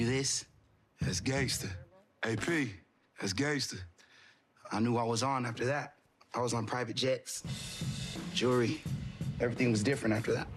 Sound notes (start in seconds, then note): 6.3 in normal voice